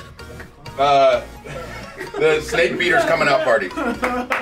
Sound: applause

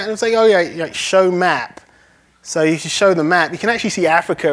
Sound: none

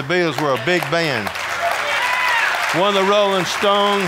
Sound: audience applauding

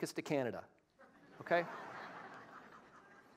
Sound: laughter

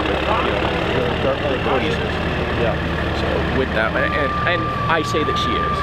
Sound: machines drowns out speakers

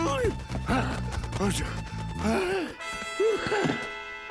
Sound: panting

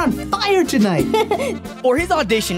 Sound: giggles

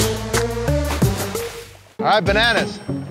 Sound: water splashing

